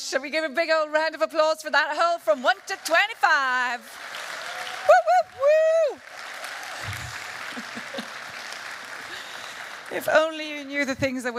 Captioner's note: applause